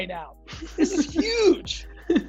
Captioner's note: laughs